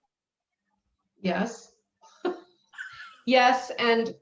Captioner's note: laughs